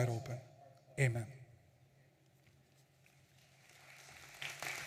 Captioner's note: audience applauding